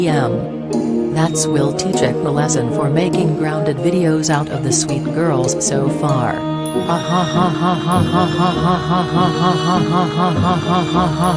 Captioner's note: laughs